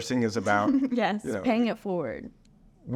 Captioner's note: giggles